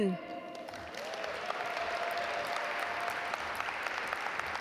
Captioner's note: audience applaud